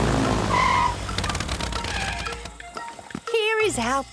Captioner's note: tires screeching